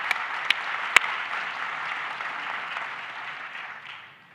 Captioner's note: applause